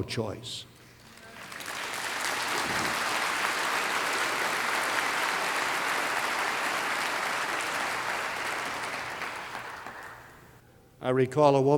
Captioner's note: applause